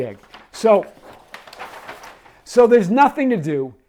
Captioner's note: paper rustling